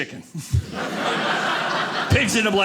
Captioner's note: audience laughing